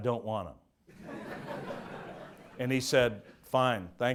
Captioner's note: audience laughs